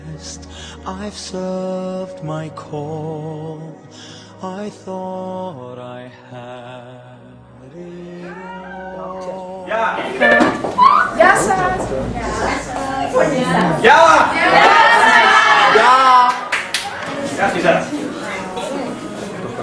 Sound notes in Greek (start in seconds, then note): 13.5 χειροκροτήματα